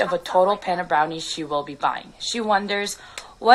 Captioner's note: voiceover